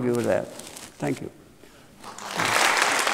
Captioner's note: applause